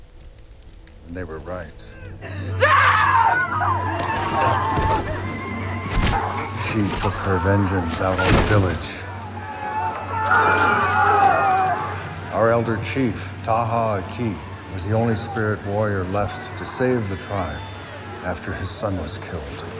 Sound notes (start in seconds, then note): 2.4 screaming; 4.1 all clamoring